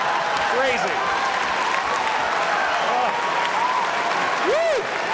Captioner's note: applause